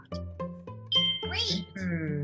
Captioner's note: bell dings